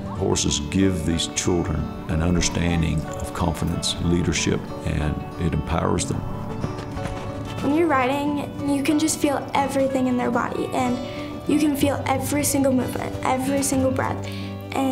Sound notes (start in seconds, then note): 5.0 hooves beating